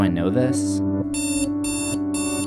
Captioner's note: alarm sound effect